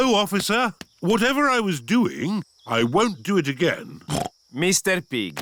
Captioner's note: snorts